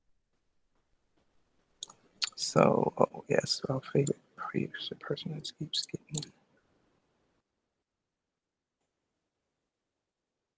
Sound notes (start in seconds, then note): 4.1 whispering